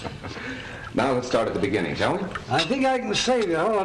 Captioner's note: laughs